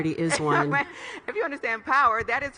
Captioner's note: laughs